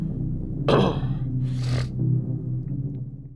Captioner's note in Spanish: carraspea